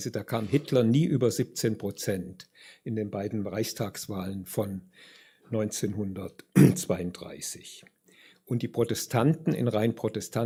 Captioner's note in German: räuspern